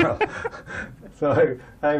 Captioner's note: laughter